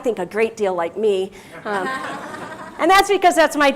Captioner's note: laugh